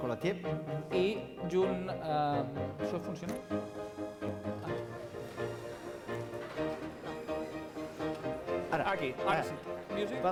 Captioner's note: non-english speech